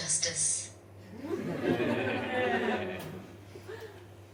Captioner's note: audience laughs